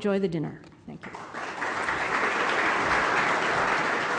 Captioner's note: clapping